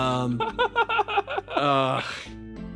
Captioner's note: laughing